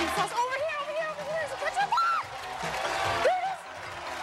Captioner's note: screams